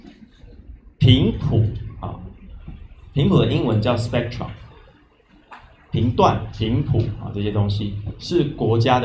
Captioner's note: explain spectrum in mandarin